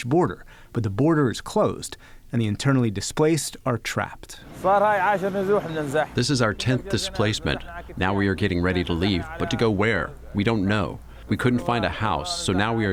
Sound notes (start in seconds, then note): 5.6 through translator